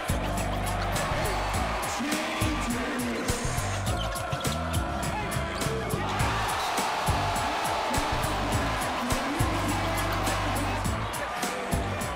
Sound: cheers

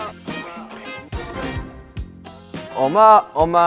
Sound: whispering

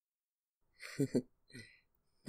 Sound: small chuckle

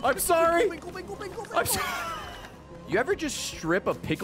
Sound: laughs

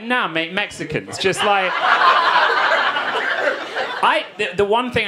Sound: audience laughing

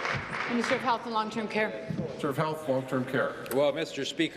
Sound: applause

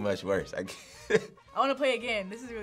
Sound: laughs

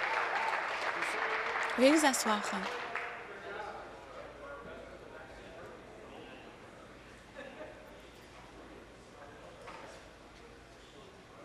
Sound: applause

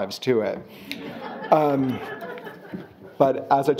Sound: audience laughing

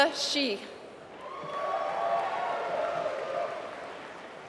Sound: applause

